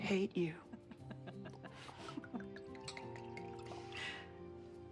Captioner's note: laughing